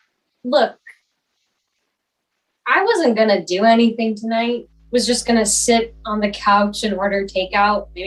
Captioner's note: faint, low humming sound under this exhange